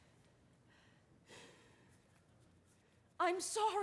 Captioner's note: sighs